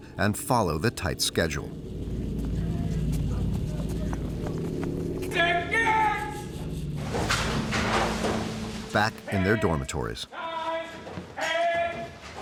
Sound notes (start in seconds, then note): 5.4 cadres yelling